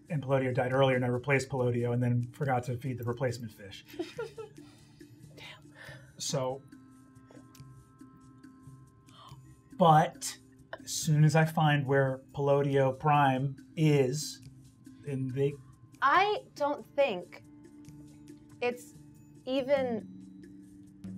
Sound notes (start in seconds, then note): 3.9 laughs